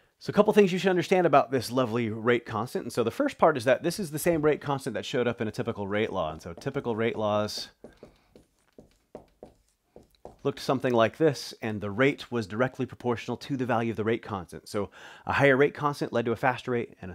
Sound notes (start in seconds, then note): 8.0 marker tapping board